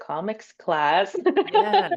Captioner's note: laughs